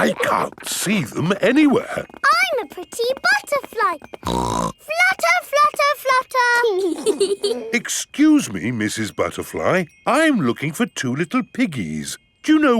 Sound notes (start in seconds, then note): 3.1 snorts; 6.8 both giggling